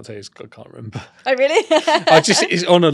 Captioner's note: laughs